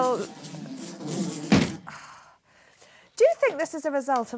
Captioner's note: buzzing